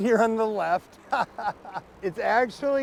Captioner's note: laughs